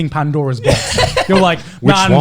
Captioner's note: laughing